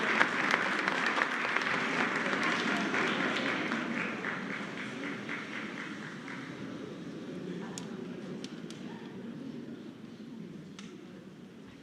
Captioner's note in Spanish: aplausos